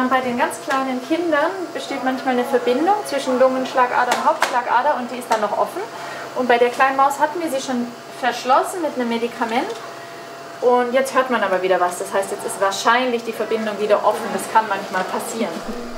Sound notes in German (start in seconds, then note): none